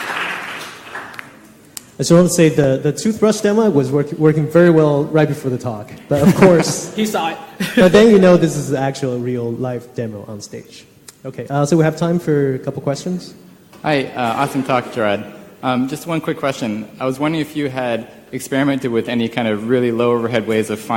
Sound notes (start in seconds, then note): 6.1 laughter; 6.1 laughs